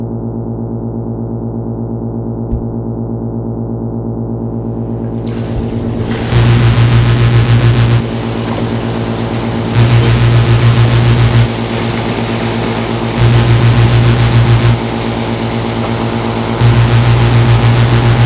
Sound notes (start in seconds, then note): 6.7 electric buzzing; 9.4 water swiftly flowing